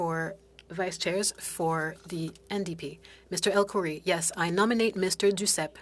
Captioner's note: speaking French